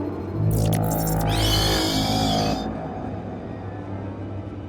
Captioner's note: shriek; suspenseful horror music